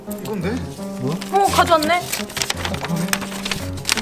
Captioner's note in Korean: 종이 소리